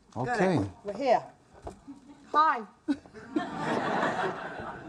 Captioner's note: audience laughs